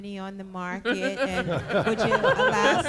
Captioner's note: laughter